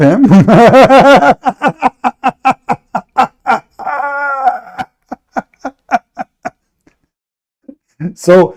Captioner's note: Ketawa